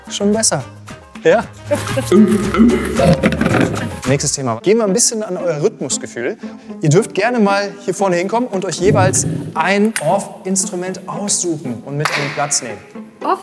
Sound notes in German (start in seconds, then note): 1.8 Affenlaute